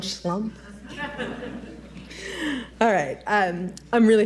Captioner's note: audience laughs